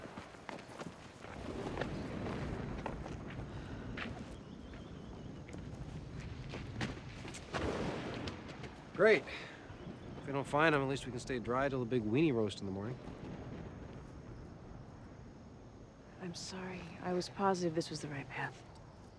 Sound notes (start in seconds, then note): 1.6 footstep